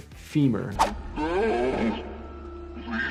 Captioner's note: graphics swishing; creature groaning